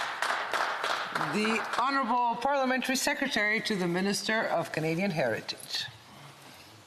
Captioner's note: some Applause